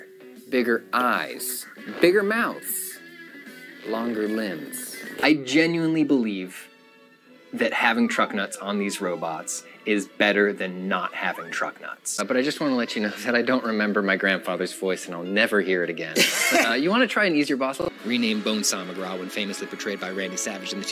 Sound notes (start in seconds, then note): 16.1 laughs